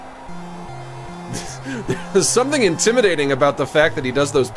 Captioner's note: laughs